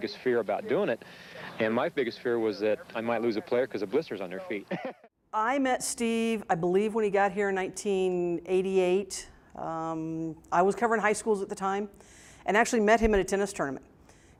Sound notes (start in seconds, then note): 4.6 laughter